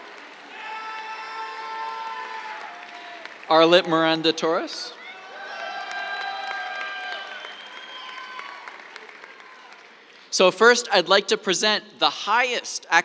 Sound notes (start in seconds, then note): 0.1 cheers, applause; 5.1 cheers, applause